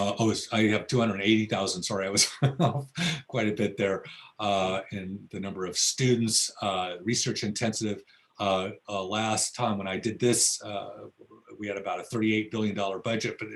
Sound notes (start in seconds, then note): 2.2 laughs